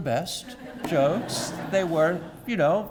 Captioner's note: laugh